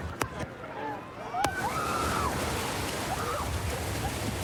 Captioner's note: excited screaming